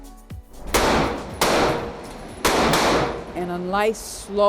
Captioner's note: gun firing